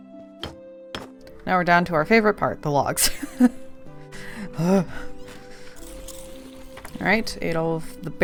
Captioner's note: sighs; laughs